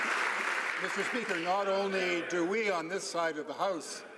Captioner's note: some Applause